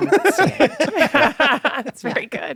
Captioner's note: laughter